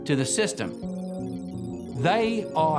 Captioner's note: computer calculating sound effect